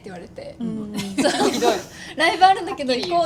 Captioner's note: laughs